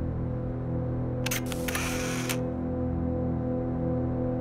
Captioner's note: camera click